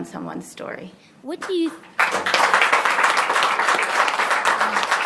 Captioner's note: applause